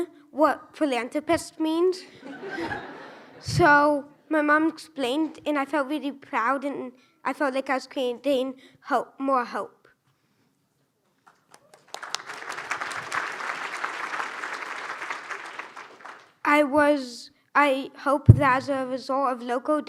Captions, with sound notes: w- what philanthropist means. (laughs) So my mom explained and I felt really proud and I felt like I was creating hope, more hope. I was... I hope that as a result of Loco